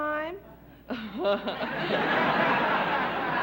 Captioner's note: laughter; chuckles